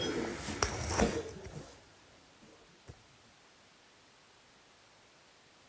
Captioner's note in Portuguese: silêncio